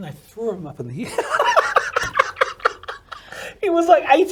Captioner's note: both laugh